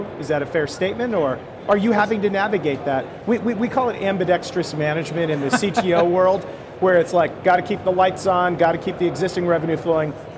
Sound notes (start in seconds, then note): 5.4 laughs